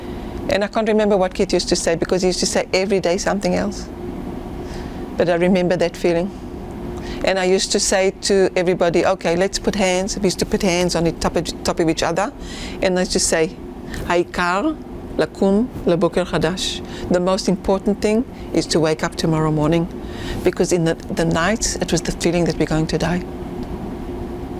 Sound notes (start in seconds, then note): 13.8 hebrew